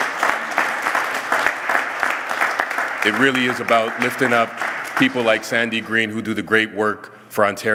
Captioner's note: applause